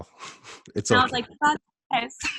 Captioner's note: laughs